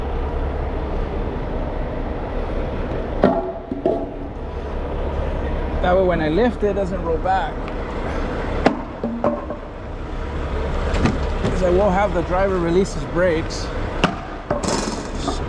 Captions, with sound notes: That way when I lift it, it doesn't roll back. (motor rumbling) Because I won't have the driver release his brakes.